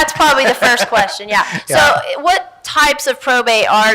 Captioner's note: laughs